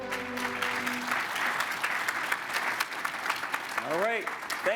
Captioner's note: crowd applauds